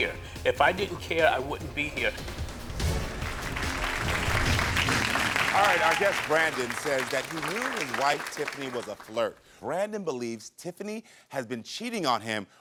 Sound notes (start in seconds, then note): 2.5 dramatic music; 3.0 audience applauds